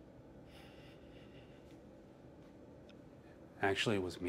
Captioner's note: Brett sighs